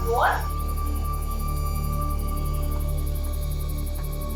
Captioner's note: woman speaking Spanish